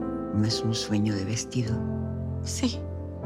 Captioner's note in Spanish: none